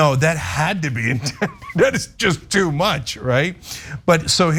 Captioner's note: laugh